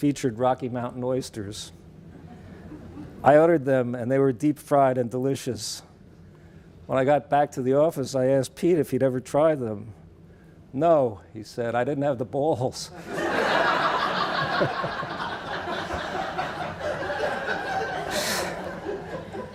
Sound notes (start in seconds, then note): 16.3 laughing